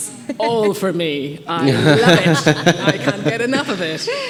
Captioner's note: group laughing